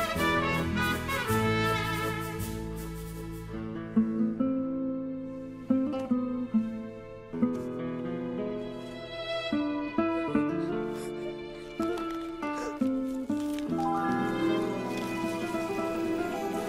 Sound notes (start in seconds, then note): 10.3 sobbing